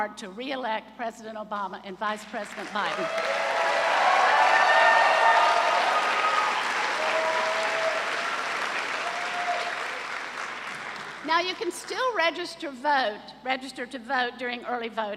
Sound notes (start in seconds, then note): 2.5 cheers and applause